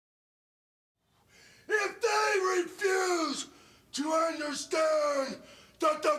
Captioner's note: breathes heavily